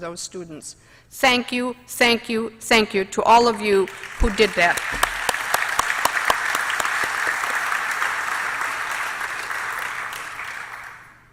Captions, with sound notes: STUDENTS, THANK YOU, THANK YOU, THANK YOU TO ALL OF YOU WHO DID THAT. [APPLAUSE].